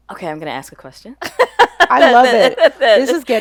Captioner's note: laughing